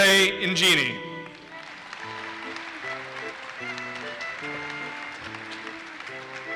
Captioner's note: audience applauses